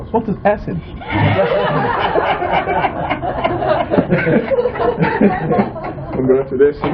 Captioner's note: laughter